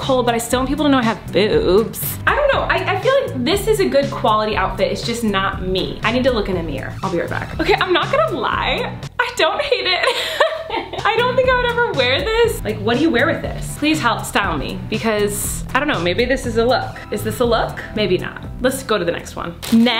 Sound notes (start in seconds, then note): 9.9 chuckles